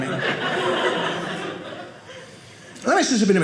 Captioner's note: audience laughing